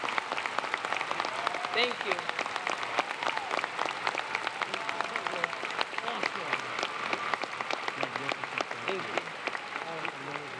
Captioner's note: applause